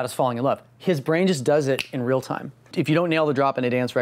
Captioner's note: snapping fingers